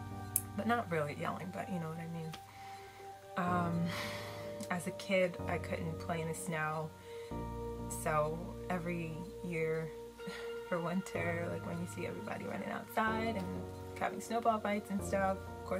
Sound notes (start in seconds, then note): 3.8 sighs